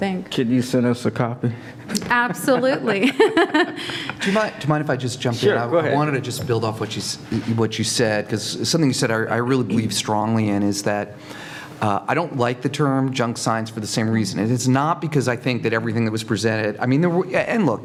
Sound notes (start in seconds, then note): 1.9 laugh